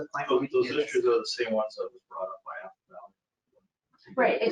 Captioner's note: speaking faintly